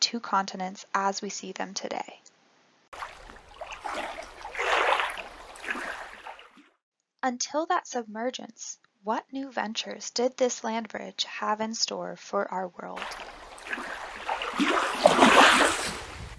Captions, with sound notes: continents as we see them today. [waves] Until that submergence what new ventures did this land bridge have in store for our world?